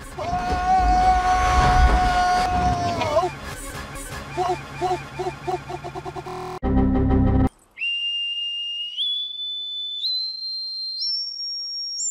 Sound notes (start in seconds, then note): 5.9 error sounds; 7.7 whistle; 7.7 high-pitched whistle; 9.9 higher-pitched whistle; 11.0 even-higher-pitched whistle